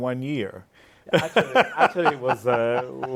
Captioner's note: laughing